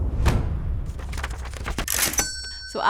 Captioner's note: book rustling; bell rings